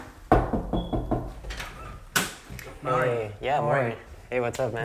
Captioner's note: Llama a la puerta; knocking on door